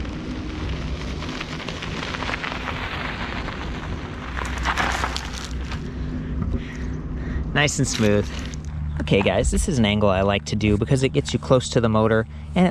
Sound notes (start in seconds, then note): 1.4 motor revving